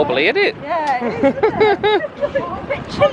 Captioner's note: laughs